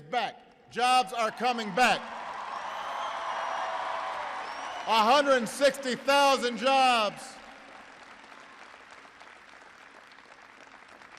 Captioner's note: applause